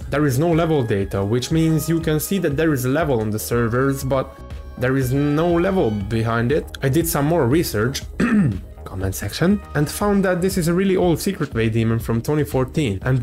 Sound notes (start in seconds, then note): 8.0 cough